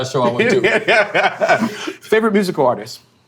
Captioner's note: laughing